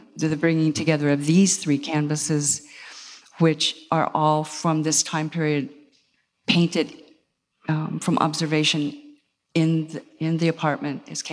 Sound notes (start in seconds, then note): none